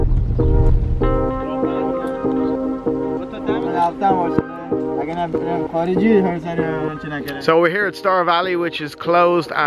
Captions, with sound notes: (speaking foreign language) So we're here at Star Valley, which is closed